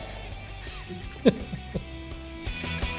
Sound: Dec laughing; upbeat rock music

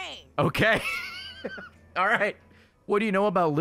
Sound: laughs

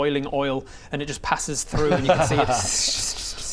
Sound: tssssssh

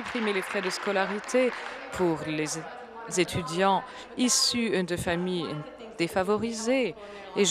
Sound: applause

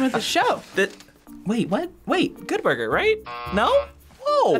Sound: laughs; buzzer rings

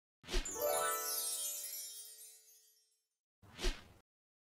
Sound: stars shimmering

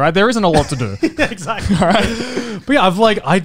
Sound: laughing

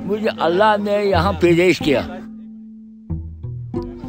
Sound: old man speaking in the background

